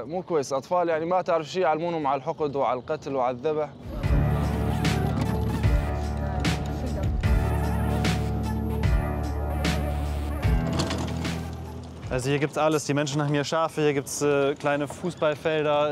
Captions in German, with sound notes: (Bewegte Musik) (Rumpeln) Hier gibt es alles. Die Menschen haben hier Schafe, hier gibt es kleine Fußballfelder.